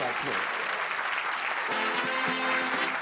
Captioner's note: applause and cheering